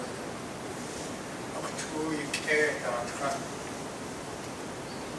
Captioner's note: speaking tlingit